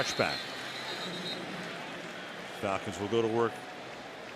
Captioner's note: whistle